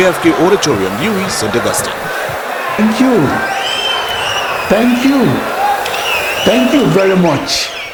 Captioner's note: wild applause and cheering for 22 seconds